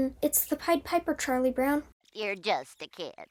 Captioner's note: in a nasal, disapproving tone